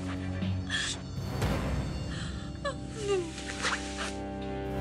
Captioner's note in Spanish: Solloza